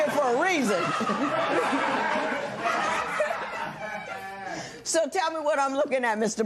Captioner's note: laughter